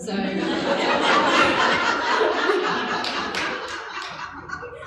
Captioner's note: laughing